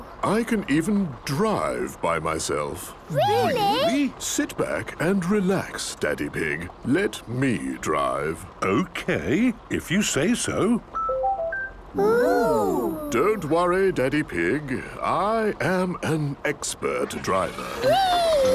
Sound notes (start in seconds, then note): 11.3 car chiming